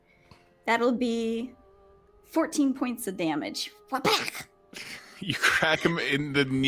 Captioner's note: smacks